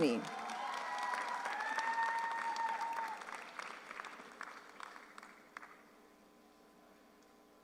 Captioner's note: audience applauds; audience cheers